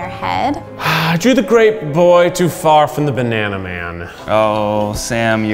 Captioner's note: sighs